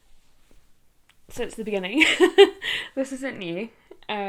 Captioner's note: laughs